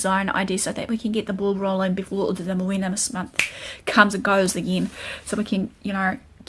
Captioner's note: sound - snap of the fingers